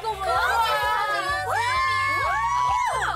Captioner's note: cheers